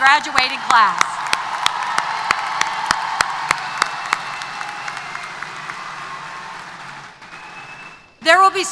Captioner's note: applause & Cheers